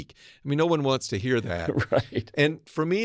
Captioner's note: laugh